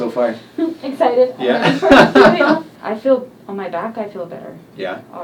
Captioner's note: laughs